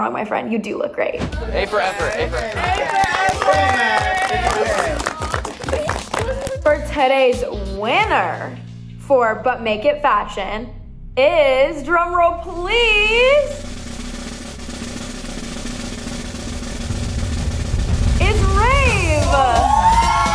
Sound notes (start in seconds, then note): 1.6 housemates clapping; 13.4 snare drum rolling